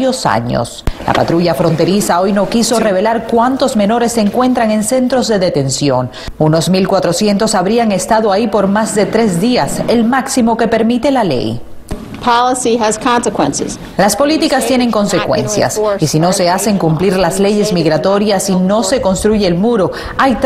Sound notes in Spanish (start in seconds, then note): 15.7 habla en ingés